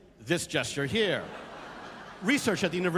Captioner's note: laughter